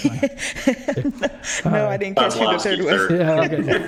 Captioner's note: laughter